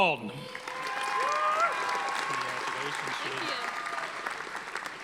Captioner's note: audience applauding